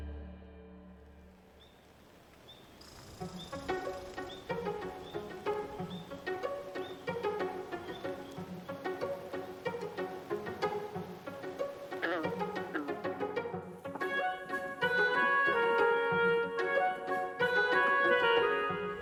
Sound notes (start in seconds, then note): 2.7 soft upbeat music; 11.8 frog croaks softly